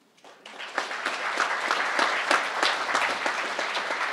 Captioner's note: crowd applauding